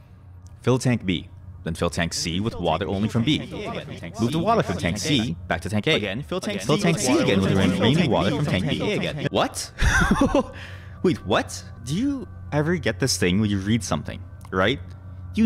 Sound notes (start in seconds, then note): 4.1 instructions echoing; 9.9 laughs